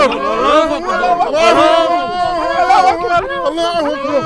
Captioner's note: hostages begging